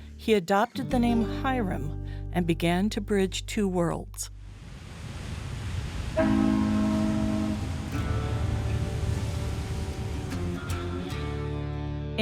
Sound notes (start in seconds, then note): 4.4 wind blowing; 6.1 boat horn honking